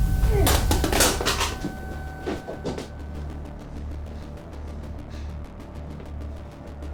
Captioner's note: tense music; guns clattering